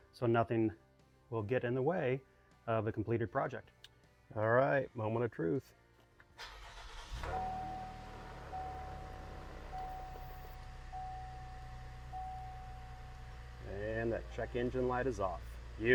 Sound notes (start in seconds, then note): 6.4 engine rumbles; 6.6 dashboard dinging